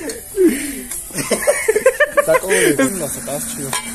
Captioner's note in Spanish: Risas de macaco en celo